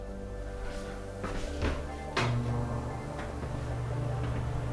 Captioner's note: fan blowing